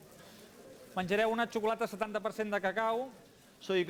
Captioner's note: non-english speech